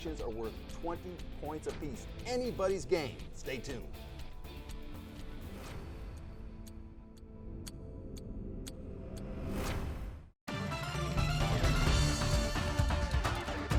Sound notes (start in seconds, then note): 5.6 clock ticking; 10.5 upbeat music